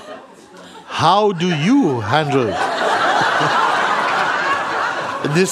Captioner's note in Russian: смех